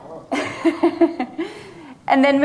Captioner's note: laughing